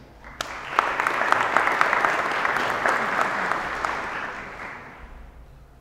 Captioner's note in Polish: oklaski